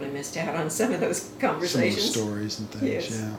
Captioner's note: laughing